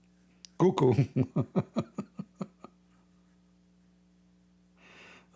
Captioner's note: Ketawa